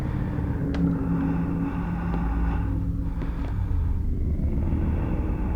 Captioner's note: man breathing